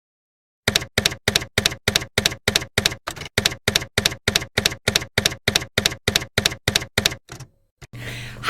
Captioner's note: typewriter keys clacking